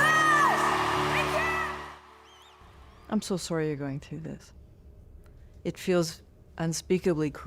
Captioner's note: cheers and Applause